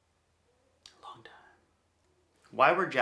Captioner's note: whispering